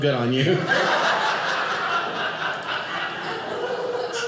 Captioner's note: audience laughing